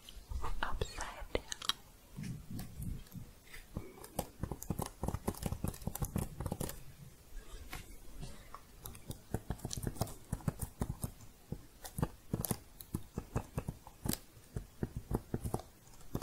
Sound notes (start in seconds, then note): 2.8 typing continues